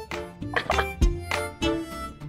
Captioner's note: laughs